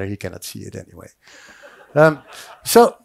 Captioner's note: audience laughs